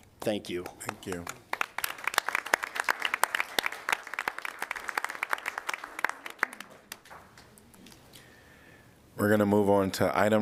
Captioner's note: applause